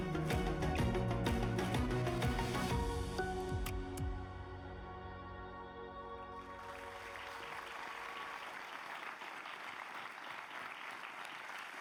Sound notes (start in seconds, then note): 0.0 upbeat music; 6.6 audience applauds